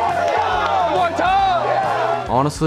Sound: team cheering

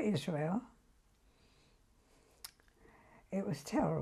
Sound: pauses for 3 seconds

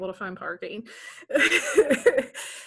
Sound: laughs

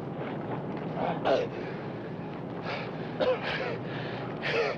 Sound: Roy gasping

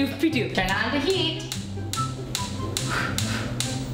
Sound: gas clicks

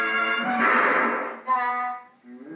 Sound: bang

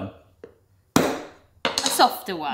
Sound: taps lid

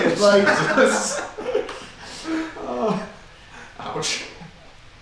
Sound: students laughing

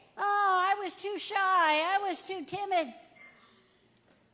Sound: none

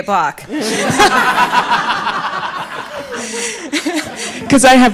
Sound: audience laughing

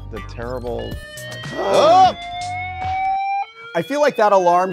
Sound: alarm blaring; both gasping

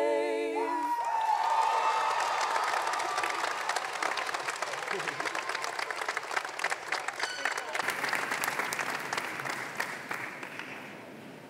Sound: applause

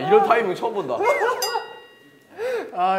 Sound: disappeared laughing so hard

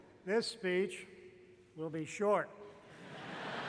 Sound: laughter

